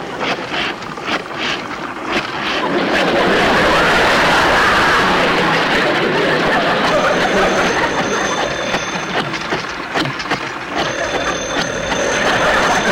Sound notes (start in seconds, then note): 0.1 apparatus Creaking; 2.2 audience Laughing; 6.8 phone Ringing; 9.1 apparatus Creaking; 10.7 phone Ringing